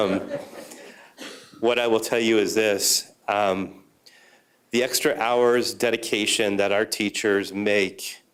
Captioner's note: laughter